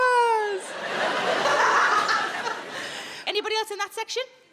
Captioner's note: Sarah laughs